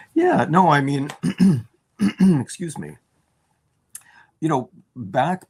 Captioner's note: clears throat